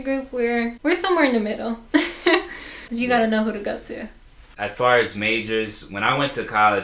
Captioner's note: laughter